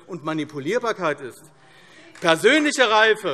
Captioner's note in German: Beifall AfD